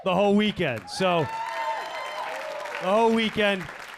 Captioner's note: audience cheering